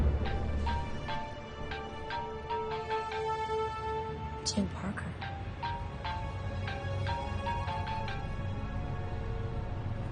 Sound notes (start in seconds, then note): 0.0 phone rings; 5.6 continues ringing